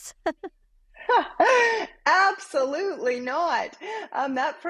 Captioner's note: both laugh